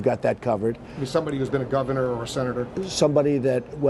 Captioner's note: voiceover